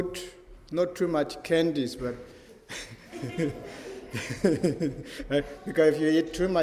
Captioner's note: laugher